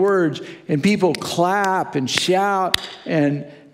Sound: claps hands

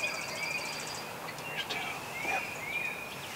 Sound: whispering

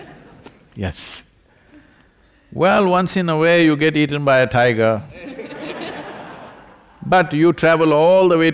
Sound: laughter

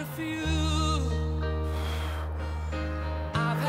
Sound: exhales sharply

